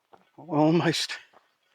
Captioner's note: footsteps thudding